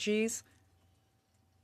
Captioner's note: speaking French